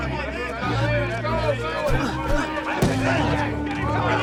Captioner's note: loud chatter